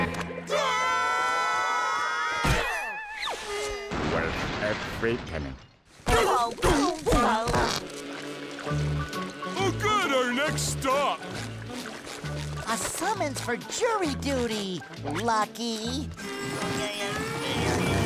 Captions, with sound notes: [screaming] Worth every penny. [groaning] Oh, good. Our next stop. A summons for jury duty, lucky.